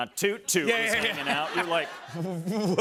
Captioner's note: laughter